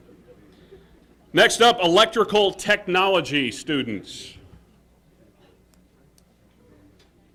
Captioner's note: laughter